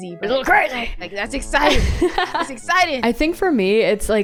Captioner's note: laughs